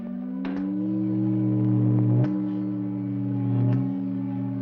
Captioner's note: inertia light humming